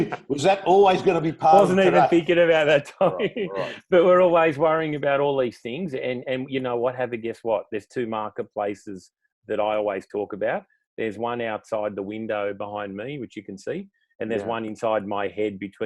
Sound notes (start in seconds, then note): 2.9 laughs